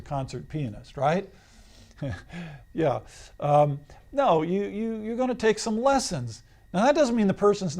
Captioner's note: laughs